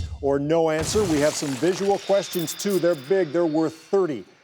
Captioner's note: clanking